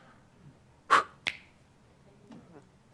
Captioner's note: snap!